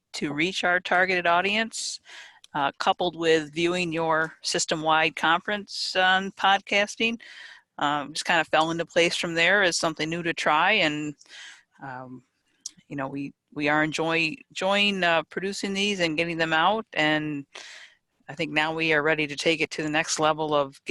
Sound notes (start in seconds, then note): none